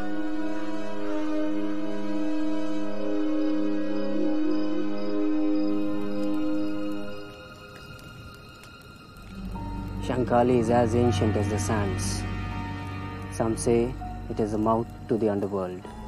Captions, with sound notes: [crickets chirping] [fire crackling] Shankali is as ancient as the sands, some say it is the mouth to the underworld.